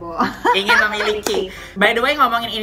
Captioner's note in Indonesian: both laughing